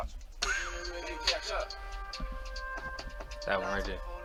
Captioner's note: recording playing back